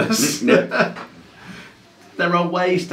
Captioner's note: both laughing